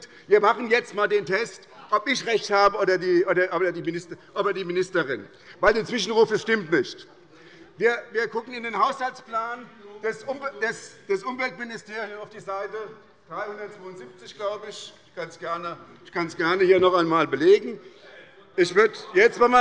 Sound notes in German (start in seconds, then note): none